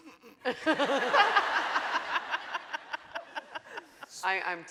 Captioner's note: laughing